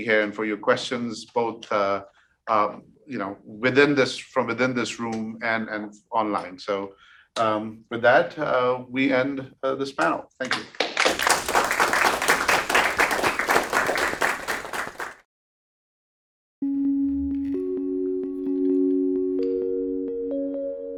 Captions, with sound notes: and for your questions, both from within this room and online. So, with that, we end this panel. Thank you. (audience applauding) (whimsical music)